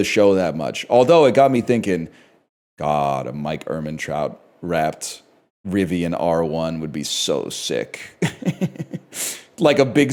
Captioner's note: laughing